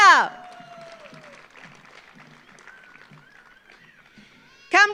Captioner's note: audience applauds